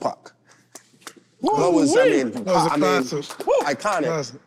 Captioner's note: group clapping